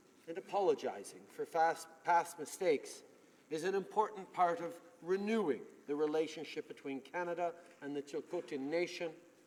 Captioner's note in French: voix de l'interprte